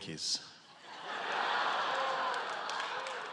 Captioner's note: laughter